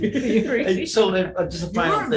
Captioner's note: all laugh